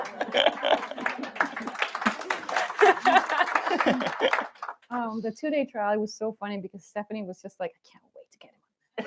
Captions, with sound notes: [APPLAUSE] The two day trial was so funny because Stephanie was just like, can't wait to get him.